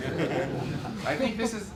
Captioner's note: laughter